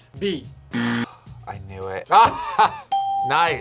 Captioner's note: buzzer rings; sighs; laughs; bell rings